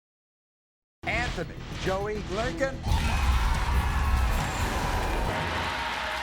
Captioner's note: audience cheers